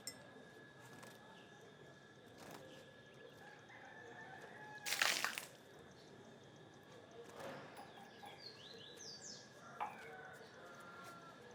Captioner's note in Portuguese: canto de galo e pássaros